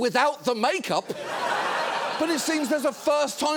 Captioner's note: studio audience laughing